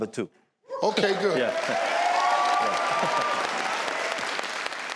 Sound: audience cheers

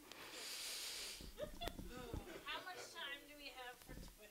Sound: sighs

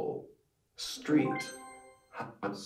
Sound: computerised sound

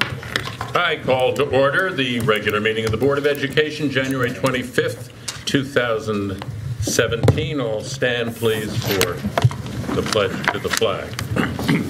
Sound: gavel knocks

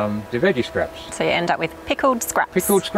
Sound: giggles

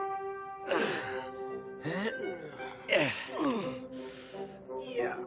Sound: all grunting

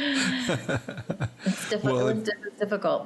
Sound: laughing

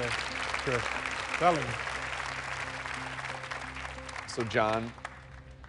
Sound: applause

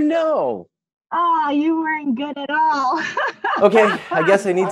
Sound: laughs

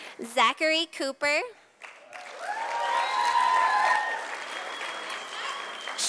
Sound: sound of applause from audience

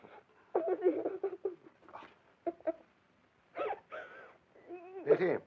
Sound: child sobbing

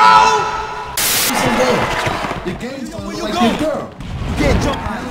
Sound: video game cacophony

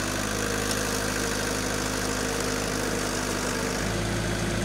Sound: telehandler engine revving

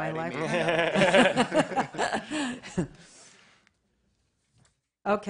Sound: laughter

